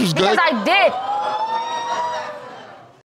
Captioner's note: audience exclaiming